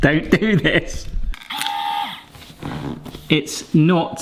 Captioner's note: machine whirring